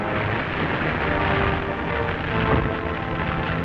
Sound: fire crackling

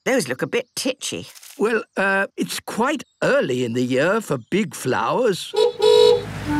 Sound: honking

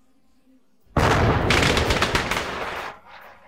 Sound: crackers bursting

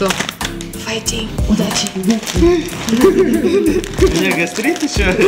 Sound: laughs nervously

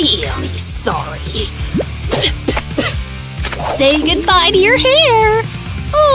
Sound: spitting sound

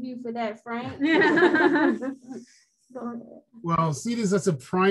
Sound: laughs

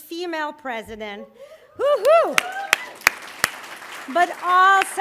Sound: cheering and applause

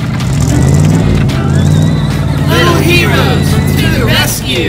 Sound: nonsense excited sounds; engine revving

